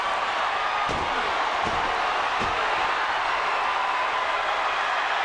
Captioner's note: audience cheering